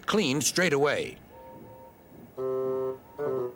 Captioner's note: whistles